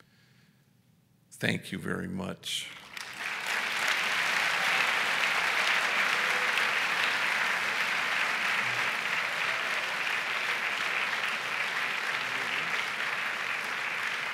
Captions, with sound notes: Thank you very much. [ Applause ]